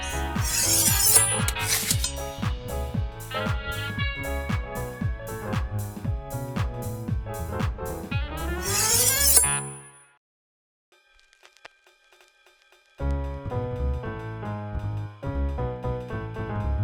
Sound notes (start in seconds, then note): 0.0 knife slicing; 0.0 jaunty music; 8.4 knife slicing; 12.9 jaunty music